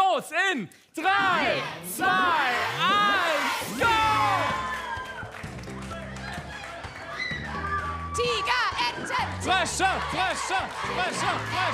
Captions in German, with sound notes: Dann geht es los in drei, zwei, eins, go! (Jubel) Tigerenten, Tigerenten! Frösche, Frösche!